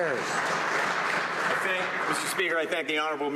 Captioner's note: some Applause